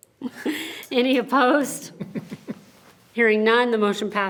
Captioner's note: members chuckling